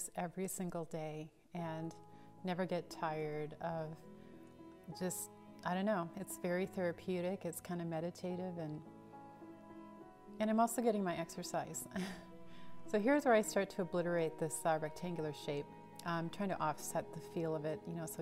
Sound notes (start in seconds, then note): 11.9 chuckles